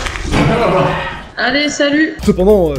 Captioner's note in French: rire